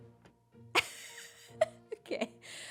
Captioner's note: laughs